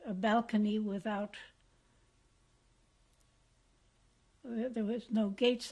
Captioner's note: pauses for 3 seconds